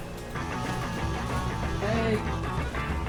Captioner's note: phone rings